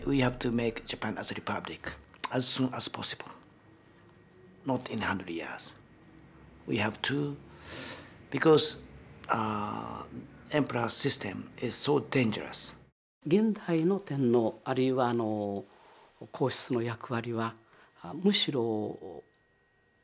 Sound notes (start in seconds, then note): 13.8 speaking in foreign language